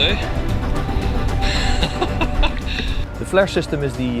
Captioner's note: laughs